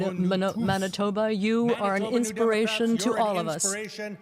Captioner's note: speaking french